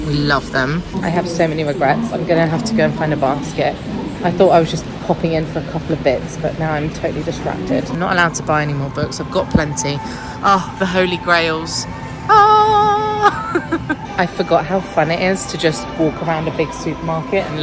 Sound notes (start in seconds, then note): 12.2 laughing